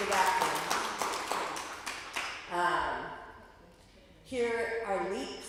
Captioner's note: applause